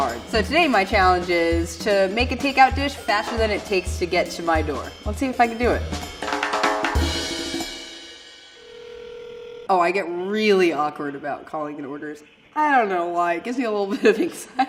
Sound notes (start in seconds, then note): 8.4 phone ringing